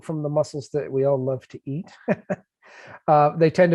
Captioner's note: laughs